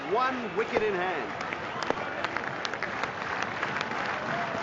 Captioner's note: bat clacks; clapping